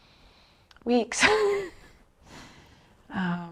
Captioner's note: laughs